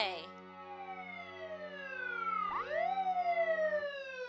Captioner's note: sirens wailing